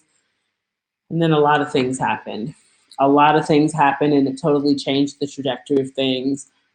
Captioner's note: none